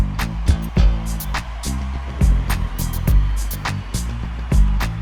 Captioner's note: funk music; audience yelling